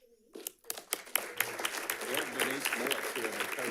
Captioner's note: audience clapping